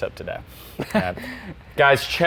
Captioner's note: chuckles